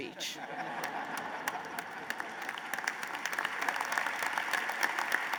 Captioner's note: laughter and applause